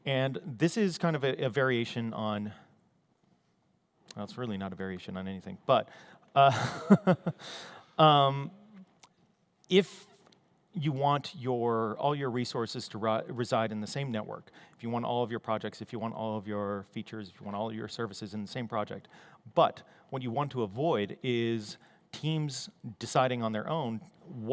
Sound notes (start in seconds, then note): 6.4 laughter